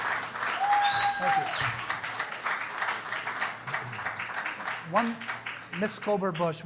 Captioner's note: cheering